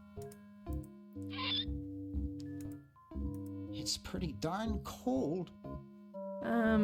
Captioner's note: lid creeks open